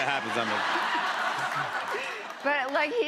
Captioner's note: laughter